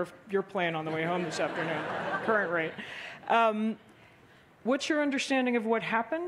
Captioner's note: laughter